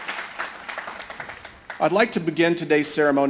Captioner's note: cheering and Applause